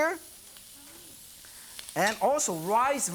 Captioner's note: sizzling